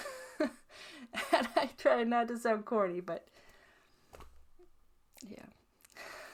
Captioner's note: laughs